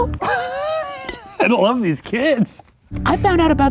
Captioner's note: laughs